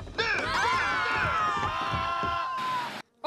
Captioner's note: all screaming